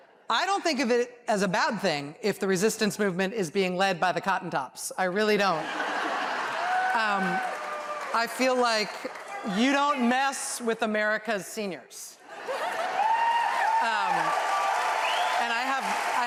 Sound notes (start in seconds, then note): 7.1 laughter; 14.1 applause